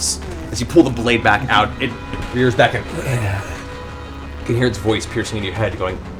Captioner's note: growls